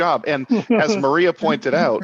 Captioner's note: laughs